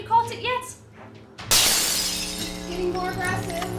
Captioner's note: glass shatters; angry electrical noises